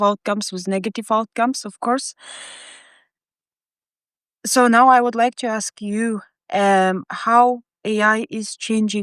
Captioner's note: inhales